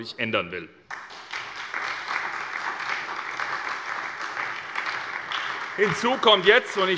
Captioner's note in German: Beifall bei der SPD